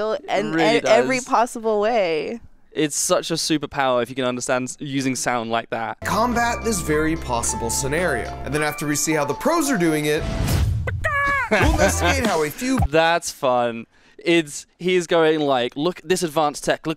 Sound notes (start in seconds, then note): 11.2 person imitates chicken